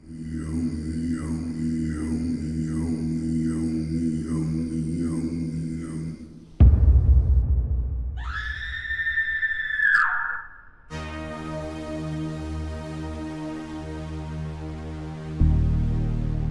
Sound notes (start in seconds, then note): 0.7 dramatic music; 8.2 woman screaming; 10.9 dramatic music